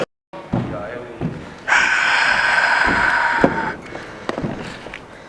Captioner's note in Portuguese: aplausos público do Rock n' Rio